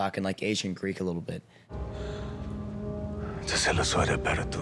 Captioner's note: speaking Greek